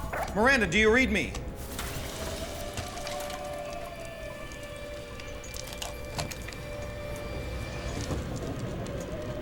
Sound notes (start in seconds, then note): 2.6 rocks thumping; 6.9 wind howling